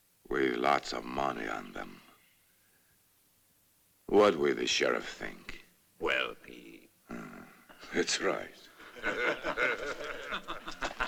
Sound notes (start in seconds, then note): 8.8 men laughing; 8.8 chuckles